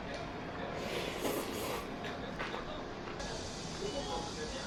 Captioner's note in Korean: 후루룩